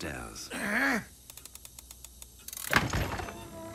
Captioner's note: mechanism clicking; door creaks open